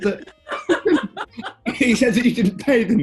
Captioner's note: laughter